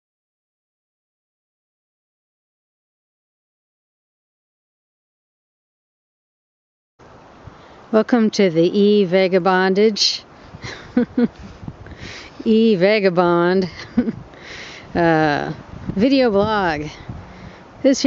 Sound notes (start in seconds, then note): 10.6 haha